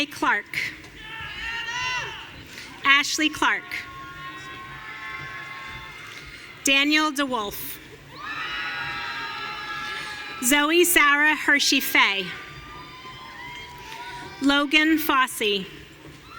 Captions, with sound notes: Anna Kay Clark. Ashley Clark. Daniel DeWolf. (audience cheering) Zoe Sarah Hershey Fay. (audience cheering) Logan Fosse.